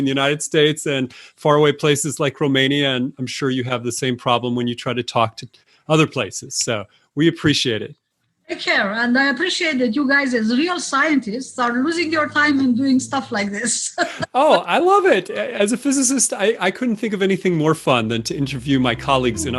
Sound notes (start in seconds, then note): 14.0 chuckle